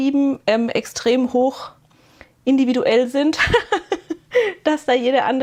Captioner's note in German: gelächter